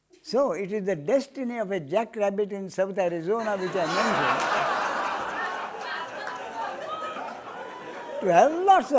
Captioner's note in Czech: smích